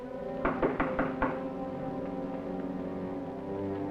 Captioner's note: knocking